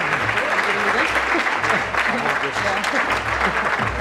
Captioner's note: audience clapping